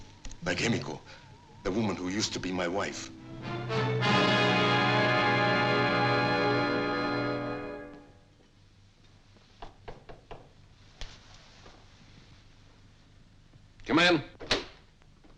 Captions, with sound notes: like Emiko, the woman who used to be my wife. (dramatic music) (knocking) - Come in.